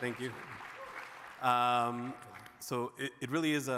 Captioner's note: audience claps